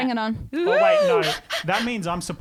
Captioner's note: hoots